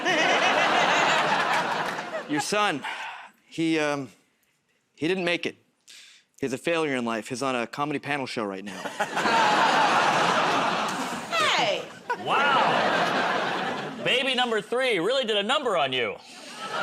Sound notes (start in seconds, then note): 0.0 laughter; 8.6 laughter